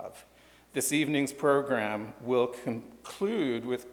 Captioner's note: none